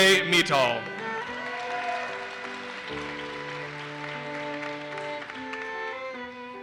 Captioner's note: audience cheers and applauses